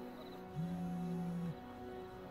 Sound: phone vibrating

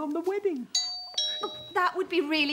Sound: doorbell rings

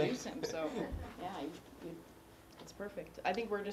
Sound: laugh

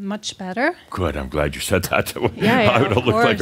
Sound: Adamus chuckles

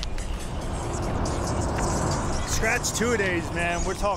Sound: traffic

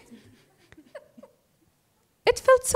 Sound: laughter

